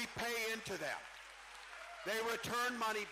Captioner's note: cheering